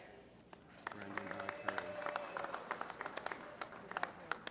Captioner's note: applause